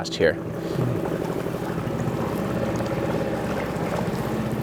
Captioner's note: motor trolling